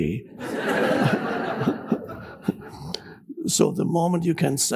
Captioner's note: audience laughs